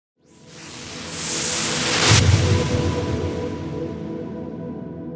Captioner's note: whooshing